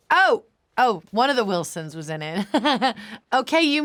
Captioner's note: laughs